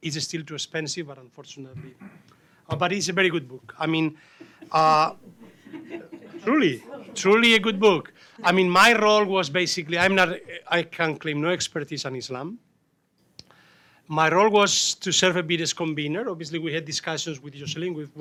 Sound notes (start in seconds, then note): 4.4 fellow panelists laugh